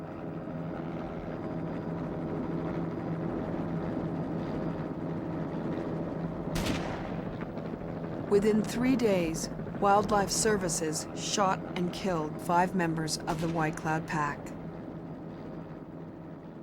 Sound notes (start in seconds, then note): 0.2 helicopter blades whirring; 6.5 gun bangs; 13.1 gun bangs